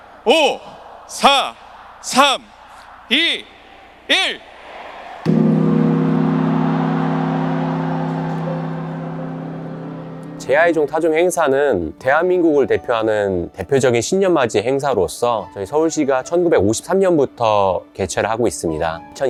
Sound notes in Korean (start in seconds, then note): 5.2 환호성; 5.2 종소리